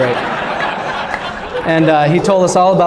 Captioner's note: laughter